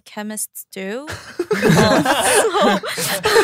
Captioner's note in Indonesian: tertawa